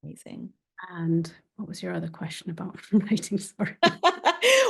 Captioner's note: chuckling; laughing